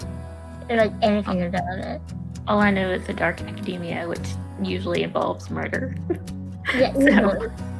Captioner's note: laugh